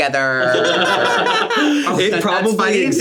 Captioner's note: everyone laughs